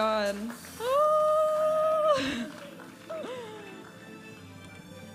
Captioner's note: screaming; upbeat music